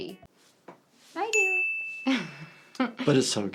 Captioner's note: chime dinging